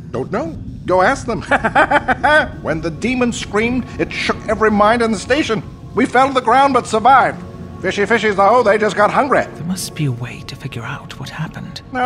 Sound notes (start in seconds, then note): 1.4 crazed laughter